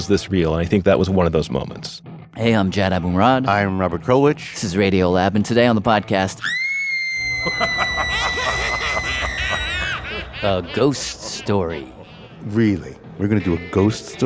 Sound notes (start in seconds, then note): 6.4 screams